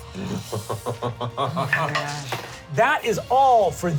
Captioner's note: laughs